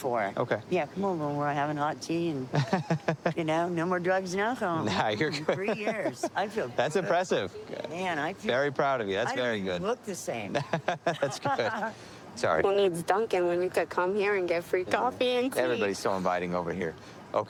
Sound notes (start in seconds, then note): 2.5 laughs; 10.5 laughing